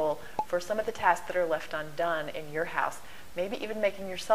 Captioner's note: pop